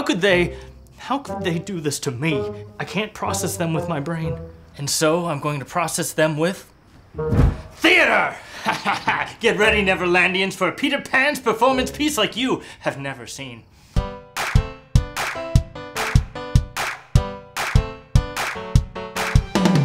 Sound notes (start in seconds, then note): 8.4 laughs; 14.3 upbeat music